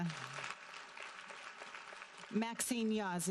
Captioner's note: audience applauding